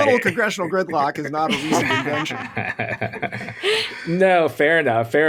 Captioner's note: laughing